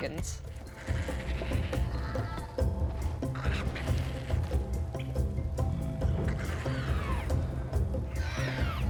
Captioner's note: dinosaur squawks